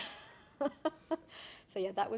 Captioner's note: laughing